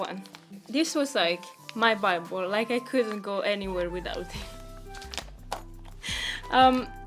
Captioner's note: nervously laughs